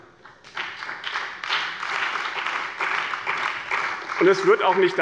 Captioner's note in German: Beifall bei dem BÜNDNIS 90/DIE GRÜNEN und der CDU